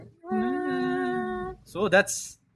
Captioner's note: hums